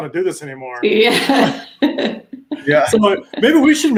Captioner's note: laughs